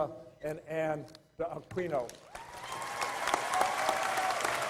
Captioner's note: applause